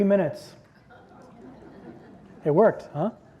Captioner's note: audience laughs